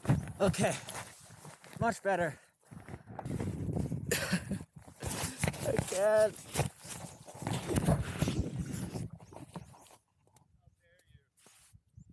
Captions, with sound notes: Okay. Much better. [uneasy laugh] I can't.